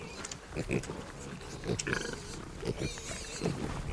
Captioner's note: piglets grunting